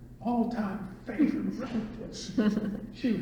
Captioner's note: all laugh